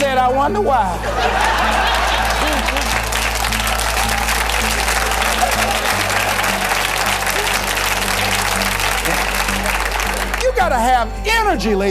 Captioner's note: laughter - Applause